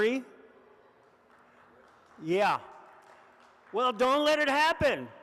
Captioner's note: audience applauds softly